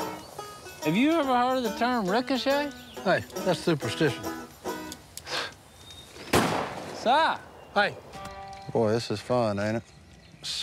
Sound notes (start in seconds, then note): 6.2 gunshot